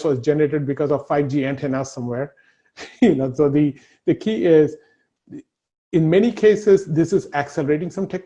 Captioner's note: laughs